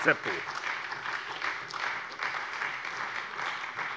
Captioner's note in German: Beifall bei der SPD